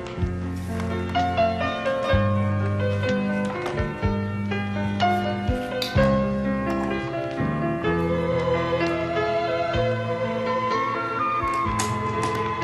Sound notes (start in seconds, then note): none